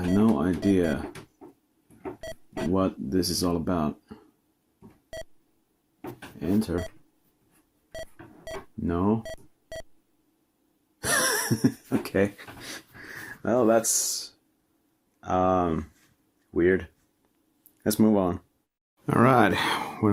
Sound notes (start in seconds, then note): 11.0 hehehe